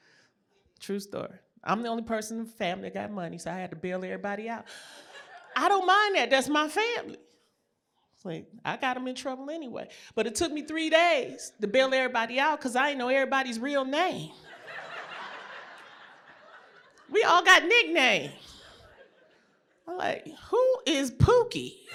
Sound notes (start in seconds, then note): 14.4 laughter